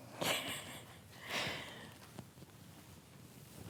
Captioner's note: laughs